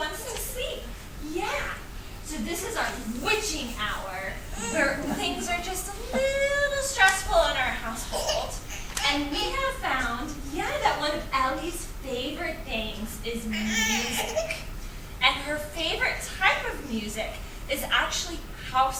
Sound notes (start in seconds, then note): 13.5 baby cooing